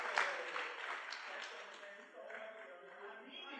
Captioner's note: background chatter